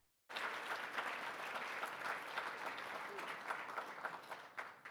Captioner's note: audience clapping